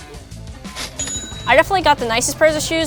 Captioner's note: register bell rings